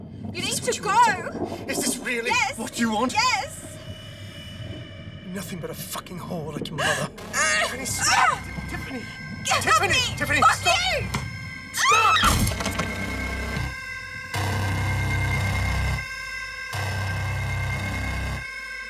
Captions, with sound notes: - You need to go! - Is this really-- - Yes! - What you want? - Yes! - You're nothing but a fucking whore like your mother. (Tiffany grunting) Tiffany, Tiffany! - Get off me! - Tiffany, Tiffany, stop! - Fuck you! - Stop! (Tiffany screaming) (loud thunking) (intense music)